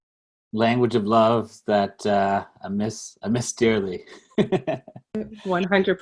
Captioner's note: laughs